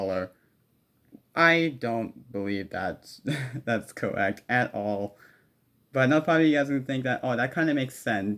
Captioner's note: laughs